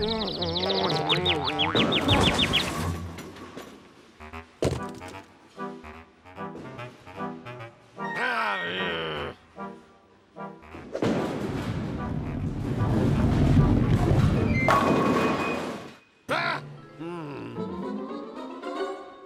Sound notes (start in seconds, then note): 0.0 cuckoo birds chirping; 8.8 growls